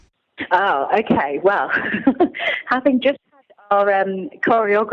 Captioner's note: laughing